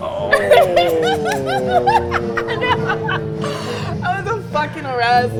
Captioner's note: laughing